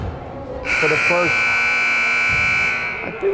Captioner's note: buzzer buzzing